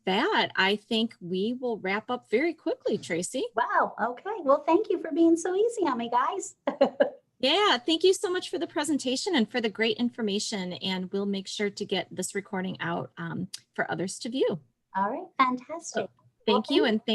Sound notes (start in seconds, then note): 6.6 laughing